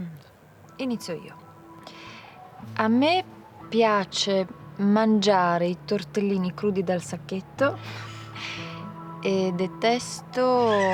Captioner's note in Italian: grido di un bambino che corre